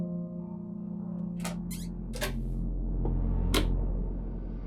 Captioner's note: door clicks; tense ambient music